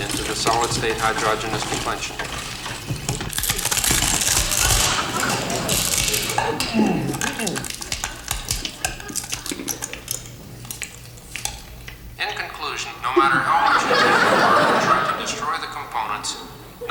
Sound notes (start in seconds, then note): 3.3 crunching sounds; 6.5 Muppet groans; 13.0 audience laughs